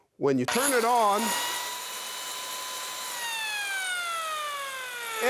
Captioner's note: machine whirring